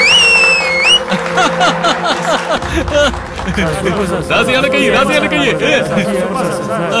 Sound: commotion

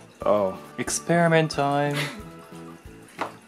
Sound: laughs

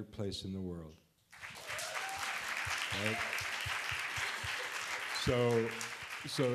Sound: applause

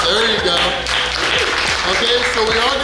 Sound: clapping

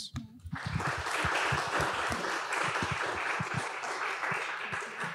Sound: audience applauds

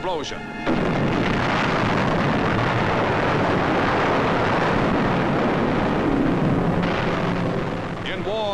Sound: music, explosions

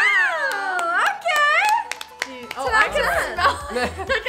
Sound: clapping

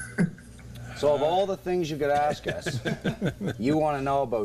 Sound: laughter

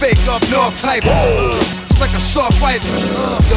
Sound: trilling

